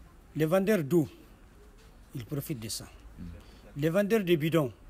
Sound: speaks in a foreign language

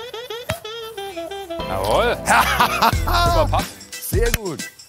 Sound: lacht triumphierend

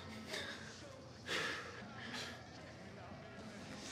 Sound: Donnie chuckles

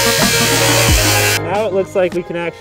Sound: angle grinding

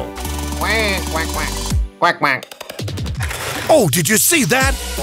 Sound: quaking sounds

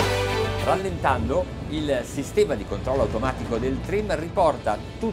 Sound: speaking Italian

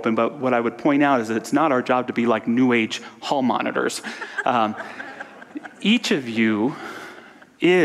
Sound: audience laughter

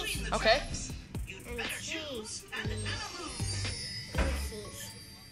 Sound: baby mumbling

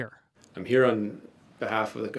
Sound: speaking indigenous language

